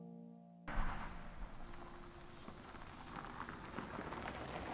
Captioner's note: car engine roaring